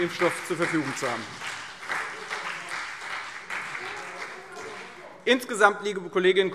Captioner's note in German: Beifall Freie Demokraten und vereinzelt CDU